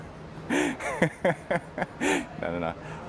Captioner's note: laughing